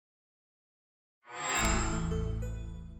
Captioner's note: chime